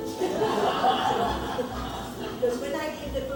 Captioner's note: audience laughing